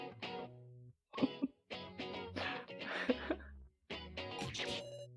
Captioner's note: laughs